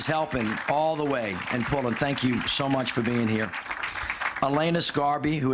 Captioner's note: applause